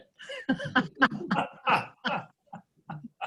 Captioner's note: laughing